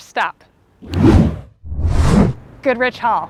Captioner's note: fingers snapping